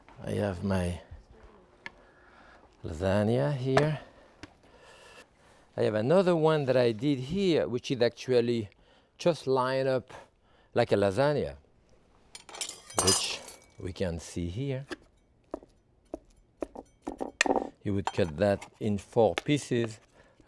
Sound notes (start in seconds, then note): 12.3 utensils clanging; 16.0 spatula thudding